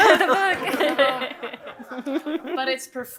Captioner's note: audience laughing